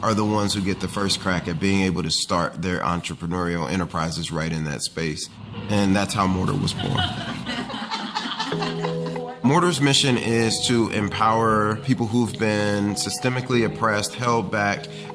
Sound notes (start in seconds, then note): 6.6 laugh